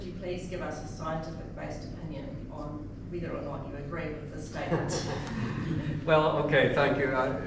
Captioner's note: chuckles